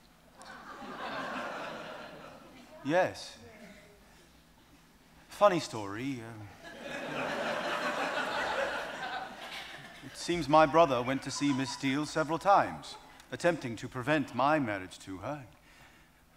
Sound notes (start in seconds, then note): 0.4 audience laughs; 6.6 audience laughing